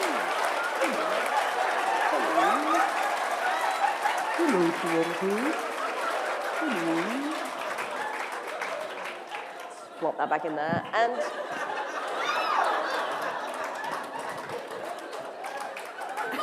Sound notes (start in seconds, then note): 1.5 laughter; 11.4 applause